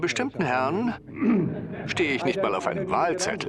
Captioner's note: audience laughs